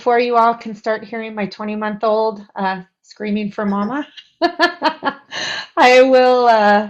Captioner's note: laughs